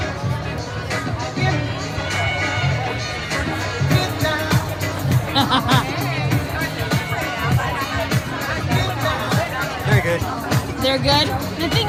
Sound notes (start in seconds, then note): 5.0 laughing